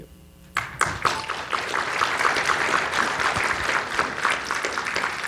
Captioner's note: audience applauding